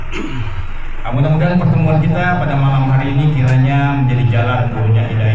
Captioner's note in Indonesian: berdehem